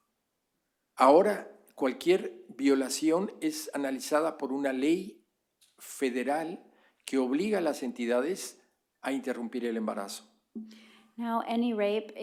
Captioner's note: speaking spanish